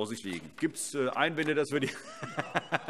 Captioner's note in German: Heiterkeit